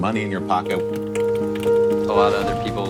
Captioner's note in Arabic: ضغط على لوحة المفاتيح